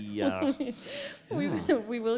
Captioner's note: laughter